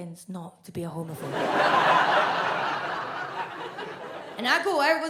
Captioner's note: audience laughs